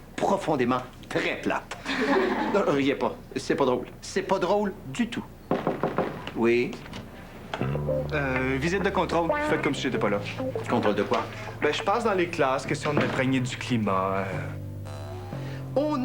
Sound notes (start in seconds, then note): 1.8 Rires; 5.5 toc, toc, toc